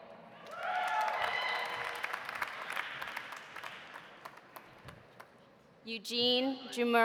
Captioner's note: audience cheering; audience applauding